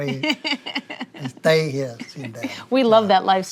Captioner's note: chuckles